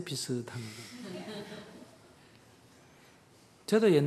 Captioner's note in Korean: 청중 웃음